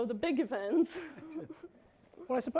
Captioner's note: chuckling